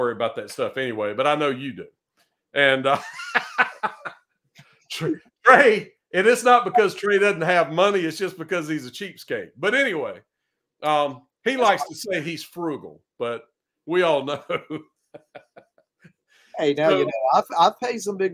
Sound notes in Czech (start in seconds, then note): 2.8 Smích